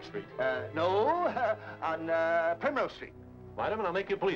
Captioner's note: chuckles